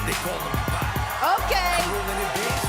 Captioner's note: cheers & applause